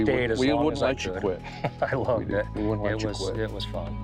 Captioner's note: laughs